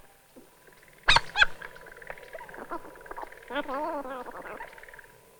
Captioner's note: tape fast forwarding